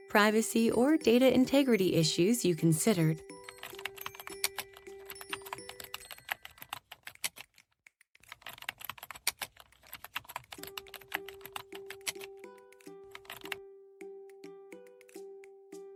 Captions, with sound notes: privacy or data integrity issues you considered. (gentle music) (keyboard typing)